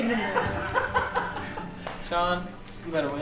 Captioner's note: laughing